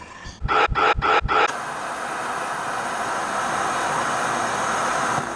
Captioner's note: TV Static